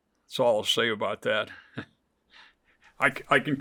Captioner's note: chuckles